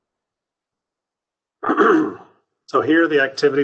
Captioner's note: clears throat